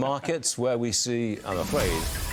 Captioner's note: laughter